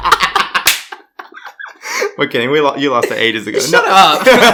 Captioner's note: laughs